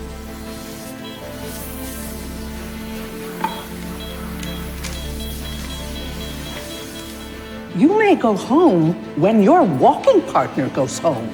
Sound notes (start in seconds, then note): 3.4 heart monitor beeps faster